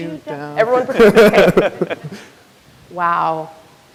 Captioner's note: laughs